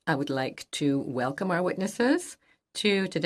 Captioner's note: speaking French